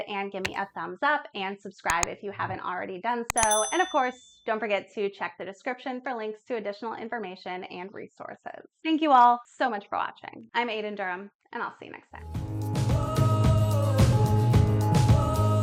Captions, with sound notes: and gimme a thumbs up and subscribe if you haven't already done so. And, of course, don't forget (bell ringing) to check the description for links to additional information and resources. Thank you all so much for watching. I'm Aiden Durham and I'll see you next time. (upbeat music)